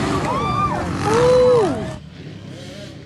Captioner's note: screams